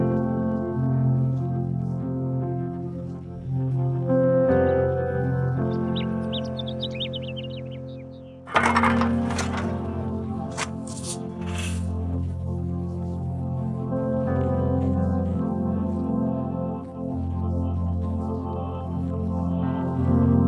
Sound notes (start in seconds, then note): 4.4 birds chirping; 8.4 clank of shovels